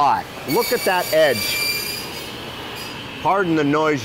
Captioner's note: electric saw sound